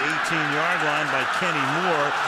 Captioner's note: crowd clamoring